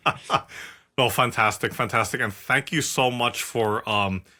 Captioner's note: laugh